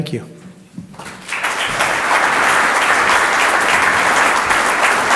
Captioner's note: audience applauds